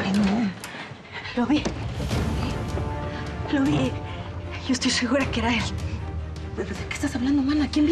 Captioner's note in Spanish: sonido al abrir la puerta